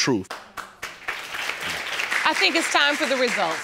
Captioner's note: audience applauding